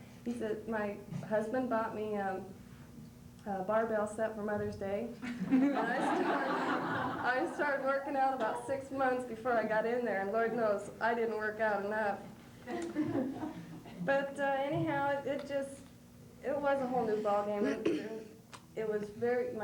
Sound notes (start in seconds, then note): 5.2 laughter